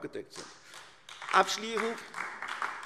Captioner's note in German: Beifall AfD